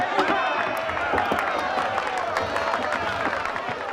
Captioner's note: applause